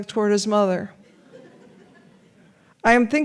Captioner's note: audience laughs